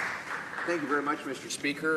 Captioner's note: applause